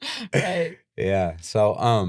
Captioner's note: laughing